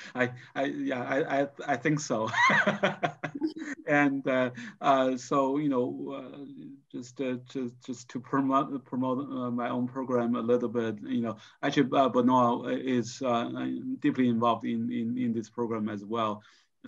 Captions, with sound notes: - Yeah, I think so. (laughs) And so, just to promote my own program a little bit, actually Benoit, is deeply involved in this program as well,